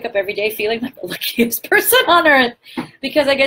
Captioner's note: laughs